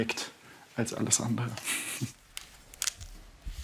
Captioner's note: he laughs quietly